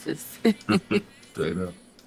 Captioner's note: both laughing